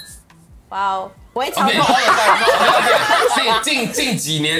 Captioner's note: commotion